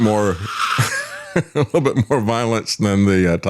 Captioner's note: mimicking Noises